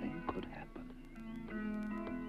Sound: birds chirping

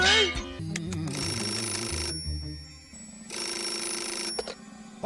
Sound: phone ringing

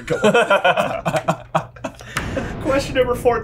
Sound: laughing

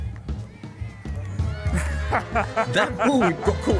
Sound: laughter

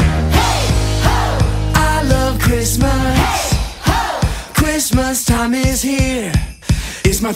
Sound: soft rock music; sleigh bells

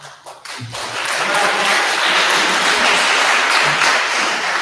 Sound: attendees applauding

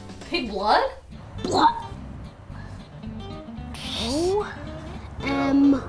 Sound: imitates retching noise

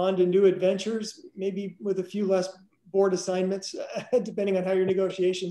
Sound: chuckles

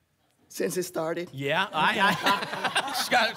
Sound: laughter

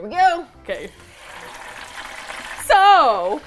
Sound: oil bubbling

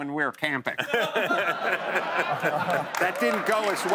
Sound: laughter

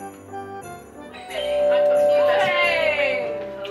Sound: doorbell

